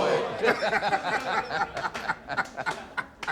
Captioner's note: laughs